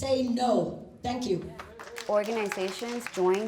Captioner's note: crowd applauding